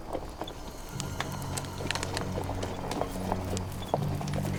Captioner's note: horses galloping